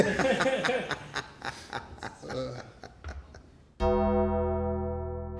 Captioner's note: people laughing; dramatic music